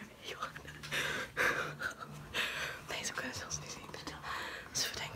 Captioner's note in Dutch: gelach